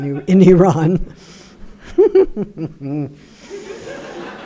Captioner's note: audience laughing